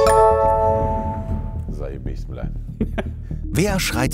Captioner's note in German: Murmeln, Lachen